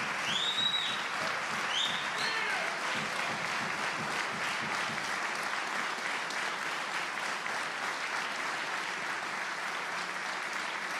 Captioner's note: applause